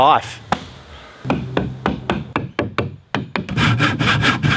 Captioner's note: various work noises